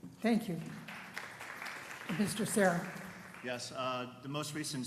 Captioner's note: applause